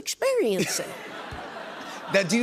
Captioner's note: laughter